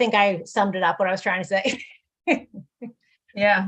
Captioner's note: laugh